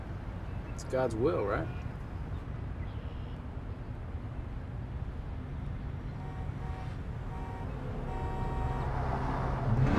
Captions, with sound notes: It's God's will, right? [car honking] [dramatic music playing]